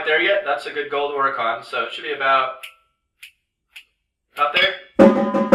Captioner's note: snapping tempo